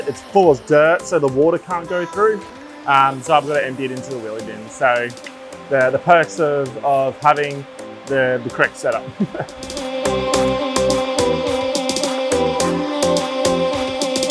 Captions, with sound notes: it's full of dirt so the water can't go through, so I've gotta empty it into the wheelie bin. So they're the perks of having the correct setup. (laughs) (upbeat music)